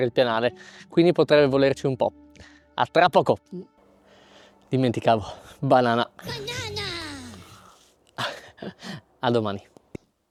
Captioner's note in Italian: sbuffare